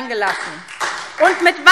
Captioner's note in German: Beifall SPD